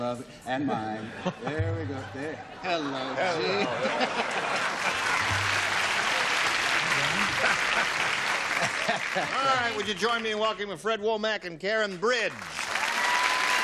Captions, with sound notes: Love it. - And mine. - There we go. - There. Hello, Gene. - Hello. [laughs] All right. Would you join me in welcoming Fred Womack and Karen Bridge.